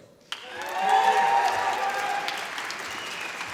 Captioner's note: applause